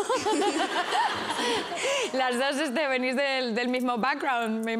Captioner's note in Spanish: risas